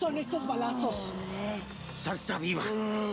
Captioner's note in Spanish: rugidos más apagados de teca